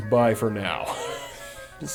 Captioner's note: wheeze